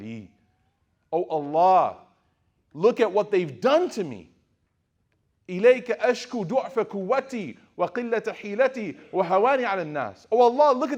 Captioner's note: speaking Arabic; speaking Arabic